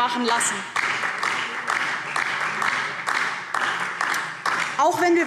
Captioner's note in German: Beifall DIE LINKE und vereinzelt BÜNDNIS 90/DIE GRÜNEN